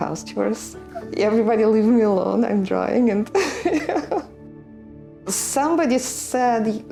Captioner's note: chuckles